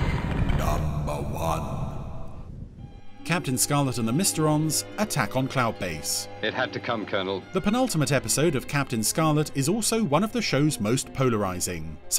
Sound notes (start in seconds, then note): 0.8 ominous Voice